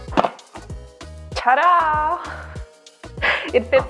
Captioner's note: laughs